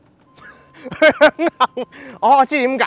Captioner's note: laughs